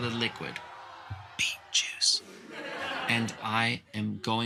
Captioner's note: whispered